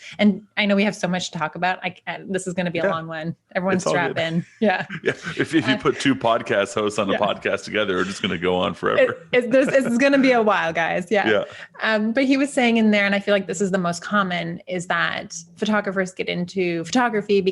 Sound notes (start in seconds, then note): 4.7 chuckles; 9.2 laughing